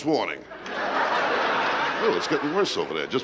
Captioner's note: laughter